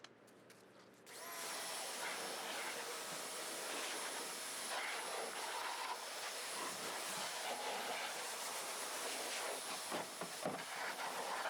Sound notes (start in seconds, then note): 1.3 pressure washer whirring